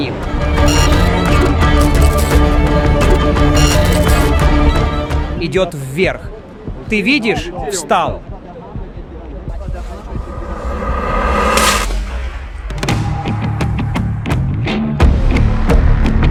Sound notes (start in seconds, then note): 8.7 heartbeat; 11.6 shot